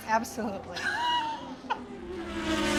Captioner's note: laughs